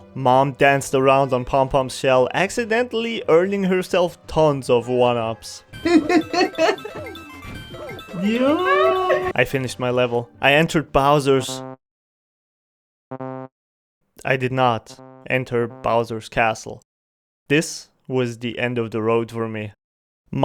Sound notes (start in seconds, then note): 5.8 laughs